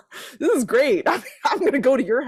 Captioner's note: laughs